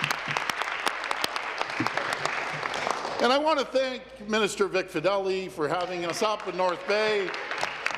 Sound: applause

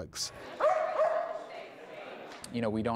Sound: barking

